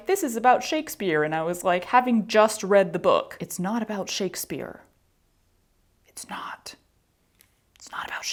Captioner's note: whispered